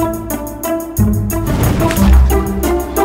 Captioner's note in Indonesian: swoosh